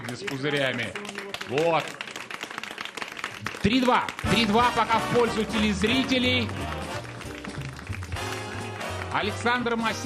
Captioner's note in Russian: аплодисменты